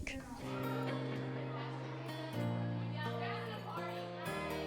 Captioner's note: children cheering